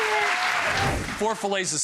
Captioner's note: cheering and applause